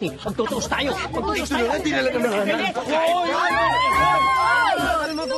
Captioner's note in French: screams